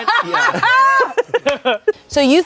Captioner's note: everyone laughs